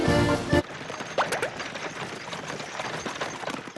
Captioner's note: pop! Pop! Pop!